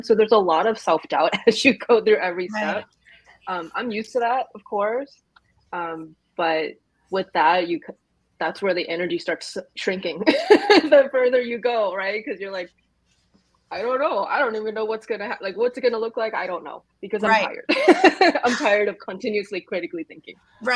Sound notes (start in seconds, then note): 10.3 laughs; 18.4 laughs